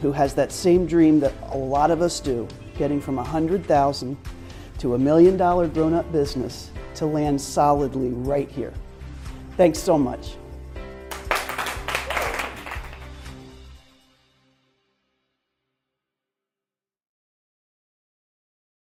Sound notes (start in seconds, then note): 11.0 applause